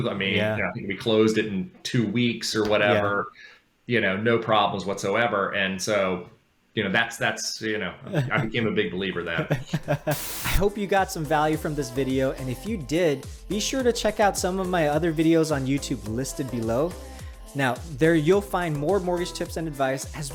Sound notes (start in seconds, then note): 9.3 laughing; 9.5 static hissing